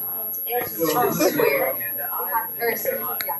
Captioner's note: speaks faintly